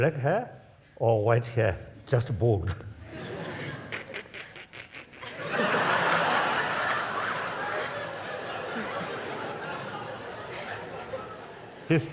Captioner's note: laughs